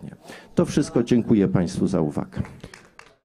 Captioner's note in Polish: oklaski